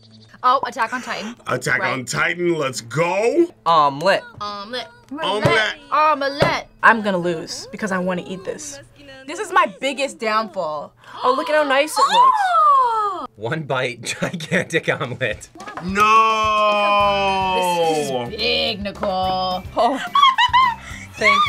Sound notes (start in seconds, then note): 11.0 gasps; 19.6 laughs